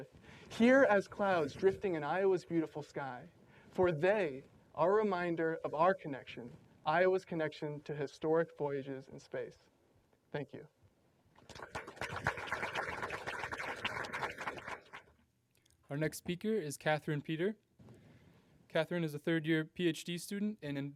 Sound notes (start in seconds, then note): 11.4 applause